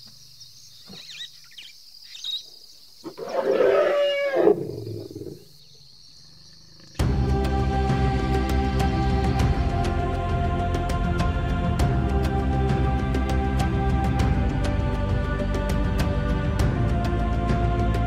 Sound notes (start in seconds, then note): 3.1 bellows; 7.1 upbeat music